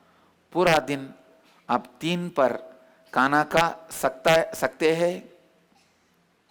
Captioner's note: hindi